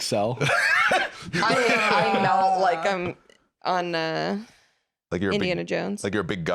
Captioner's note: laughs